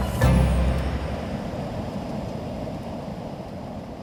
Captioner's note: wind blowing